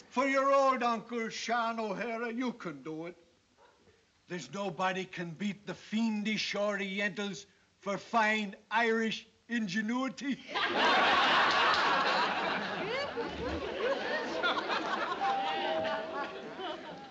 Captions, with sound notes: For your old Uncle Sean O'Hara you can do it. There's nobody can beat the fiendish orientals for fine Irish ingenuity. [DOORBELL]